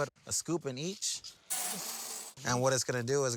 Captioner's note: beans clinking